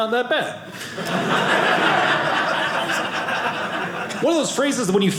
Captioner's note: audience laughing